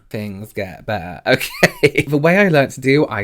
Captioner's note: laughs